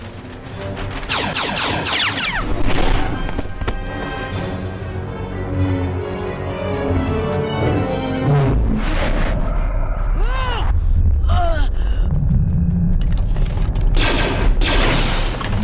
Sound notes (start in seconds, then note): 1.0 pew pew pew; 2.2 woosh; 6.9 vrr vmmmm; 10.1 straining; 14.0 pew pew